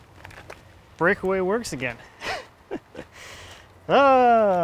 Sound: laughs

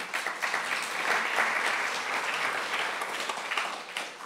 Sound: applause

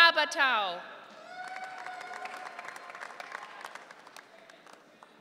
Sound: audience cheering

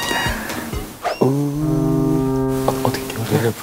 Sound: foghorn sound?

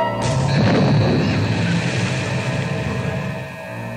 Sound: torpedo explodes

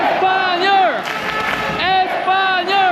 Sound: clap clap clap

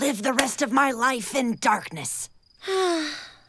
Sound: sighing

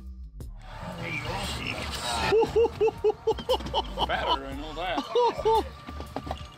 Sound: laughs

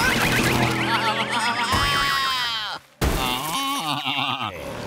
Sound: baaing

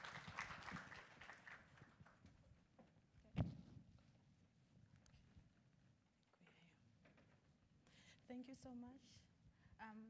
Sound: applause

